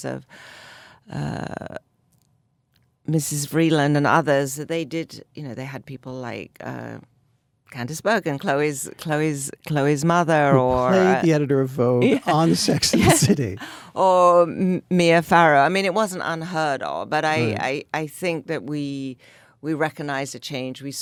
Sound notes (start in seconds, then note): 12.0 Anna and David laugh